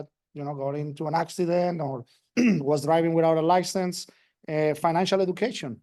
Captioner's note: cough